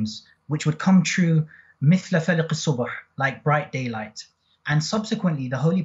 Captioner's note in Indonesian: Bahasa Arab